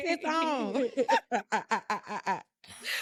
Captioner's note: laughing